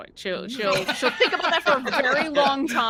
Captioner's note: all laugh